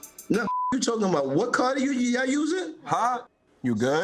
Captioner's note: beeps